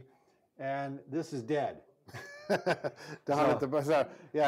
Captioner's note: laughs